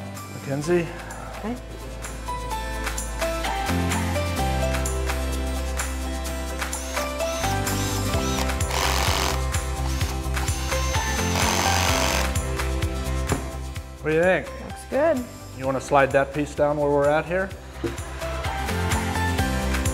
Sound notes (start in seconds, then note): 3.7 drill whirring; 3.7 upbeat music; 19.7 upbeat music